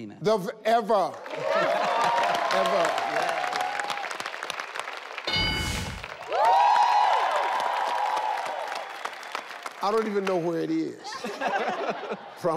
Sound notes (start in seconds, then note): 1.0 family clapping; 5.2 bell dings; 6.3 audience cheering; 11.0 family laughing